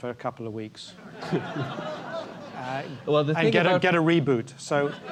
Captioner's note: laugh